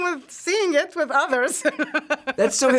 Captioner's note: laughs